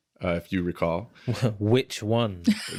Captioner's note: chuckles